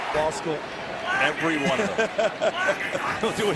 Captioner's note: laughing